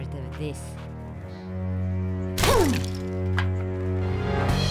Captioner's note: punching sound; action music